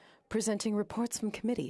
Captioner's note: speaking French